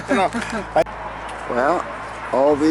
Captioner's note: laughing